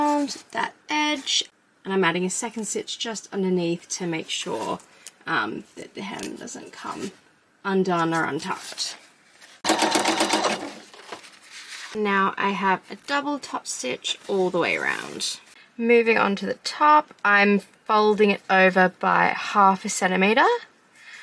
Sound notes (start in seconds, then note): 9.6 sewing machine churns